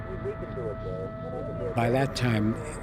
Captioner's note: talking in background